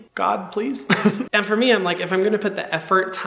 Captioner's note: Hyram giggling